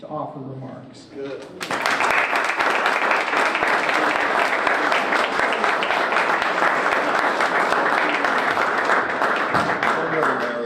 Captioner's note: applause